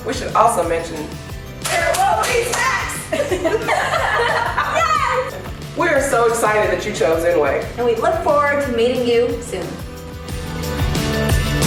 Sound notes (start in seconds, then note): 1.6 clapping; 1.6 laughing and cheering